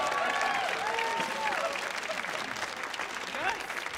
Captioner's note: audience applauding